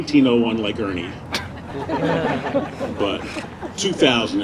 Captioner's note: audience laughing